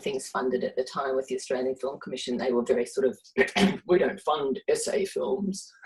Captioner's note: gruffly